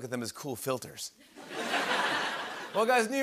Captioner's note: laughter